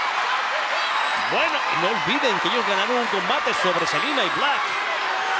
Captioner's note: crowd cheering; commentator speaking Spanish